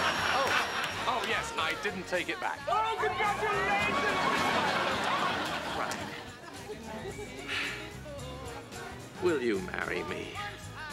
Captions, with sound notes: Oh, yes, I didn't take it back. Oh, congratulations, Miss Fine! (cheering ) Fran. ( sighs ) Will you marry me?